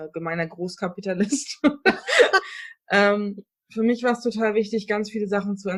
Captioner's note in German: beide lachen